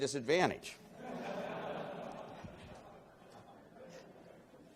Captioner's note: laughing